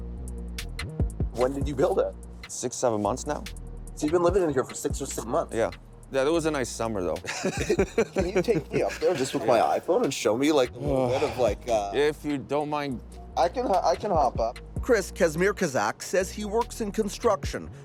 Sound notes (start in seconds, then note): 7.2 both laugh